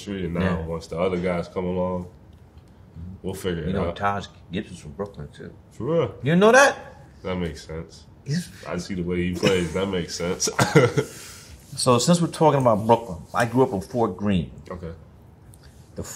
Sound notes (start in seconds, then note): 10.2 laughs